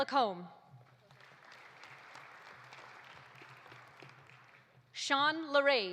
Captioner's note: audience applauding